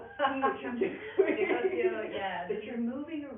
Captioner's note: laughing